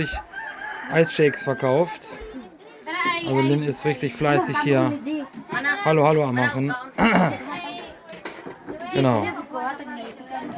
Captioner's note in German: räuspern